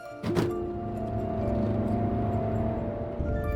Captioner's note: car doors shut; car engine accelerating